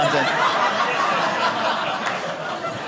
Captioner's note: audience laughing